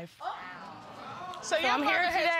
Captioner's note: audience exclaiming